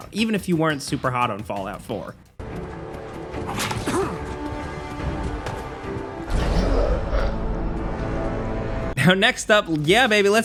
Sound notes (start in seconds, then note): 2.4 dramatic music; 3.5 player grunts